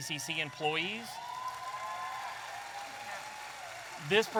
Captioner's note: audience applauding and cheering